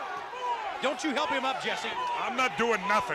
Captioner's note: crowd chatter